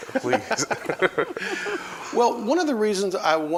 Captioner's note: laughs